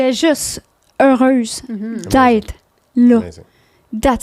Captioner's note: in french